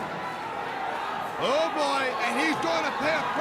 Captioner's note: crowd cheering